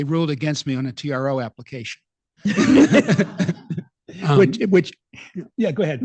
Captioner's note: laughing